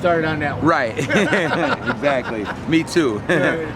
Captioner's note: laughing